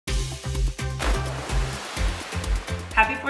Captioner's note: upbeat music; water slashing